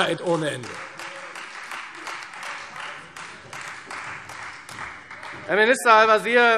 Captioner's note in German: Beifall Freie Demokraten und vereinzelt SPD